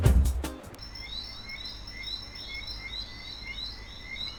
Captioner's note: crickets chirping